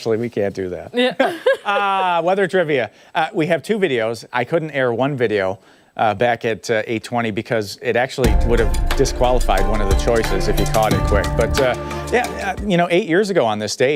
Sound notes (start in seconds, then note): 1.0 laughter